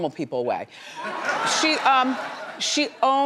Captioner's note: laughs